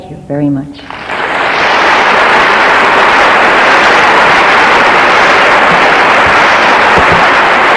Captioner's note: audience applauding